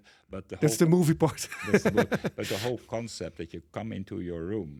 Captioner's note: laughs